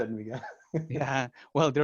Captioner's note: laughter